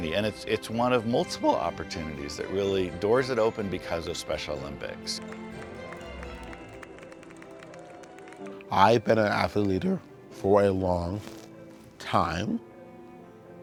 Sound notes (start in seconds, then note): 5.5 bright music; 5.5 people cheer